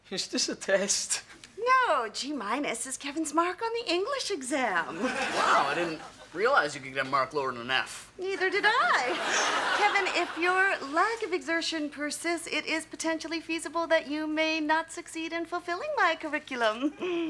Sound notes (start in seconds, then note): 8.5 audience laughs